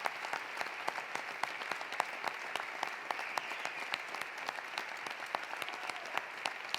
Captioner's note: applause continues; cheering continues